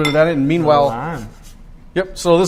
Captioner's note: scratching